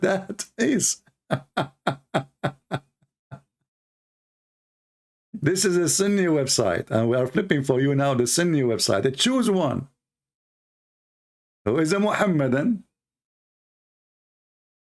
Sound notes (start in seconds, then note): 1.3 Ketawa